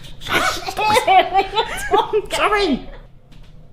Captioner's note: laughs